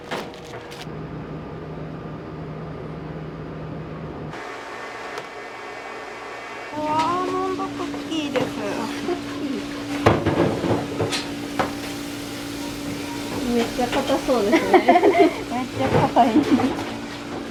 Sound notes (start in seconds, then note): 14.3 laughs; 14.4 laughter